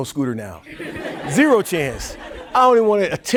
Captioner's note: audience laughing